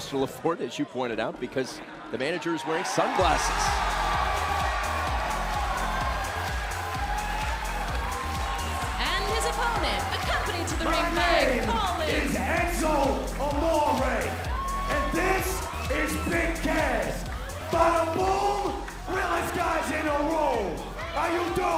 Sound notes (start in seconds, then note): 4.9 crowd cheering